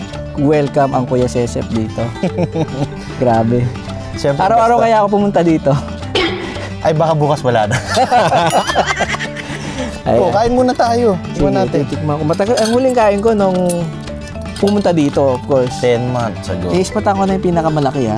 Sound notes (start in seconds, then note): 7.6 laughs